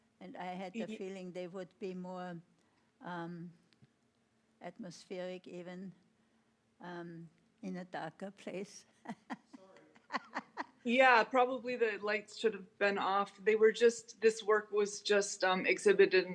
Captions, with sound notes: And I had the feeling they would be more atmospheric even in a darker place. (laughing) - Yeah, probably the lights should have been off. They were just, this work was just exhibited